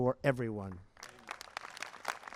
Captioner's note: applause